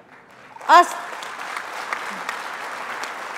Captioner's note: applause